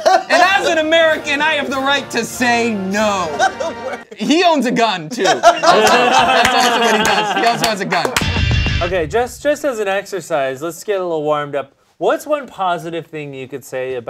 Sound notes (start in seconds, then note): 5.0 all laughing; 8.3 electric guitar music